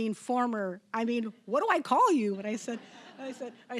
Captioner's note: audience laughing